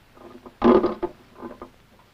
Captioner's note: clanking